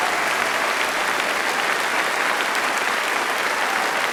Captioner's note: applause